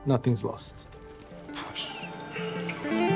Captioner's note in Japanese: ため息